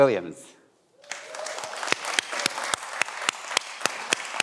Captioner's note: everyone applauds